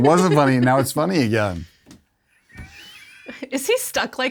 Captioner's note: chuckles